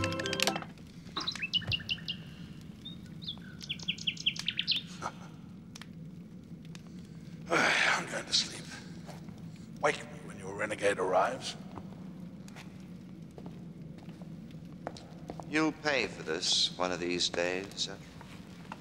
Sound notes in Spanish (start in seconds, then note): 1.0 pájaros trinando; 4.9 Zadrim riéndose